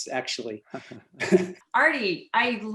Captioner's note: both chuckle